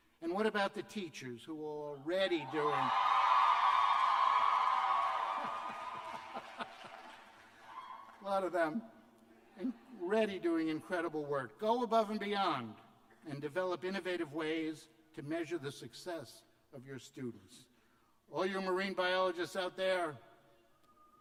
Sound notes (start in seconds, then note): 4.1 cheers and applause; 5.3 laughter